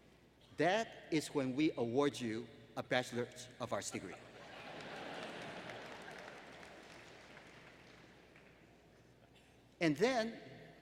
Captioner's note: laughter